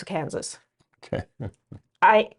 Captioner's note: chuckles